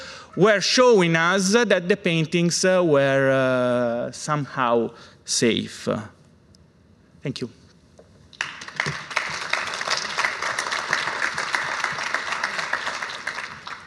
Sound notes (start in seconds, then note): 8.3 applause